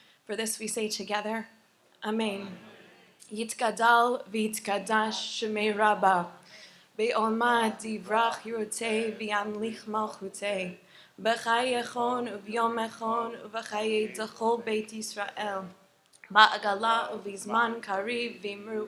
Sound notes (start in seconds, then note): 4.0 Recites the Mourner's Kaddish in Hebrew; 7.4 continues to recite the Mourner's Kaddish in Hebrew